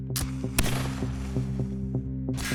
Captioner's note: gunshot